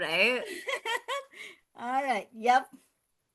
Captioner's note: laughs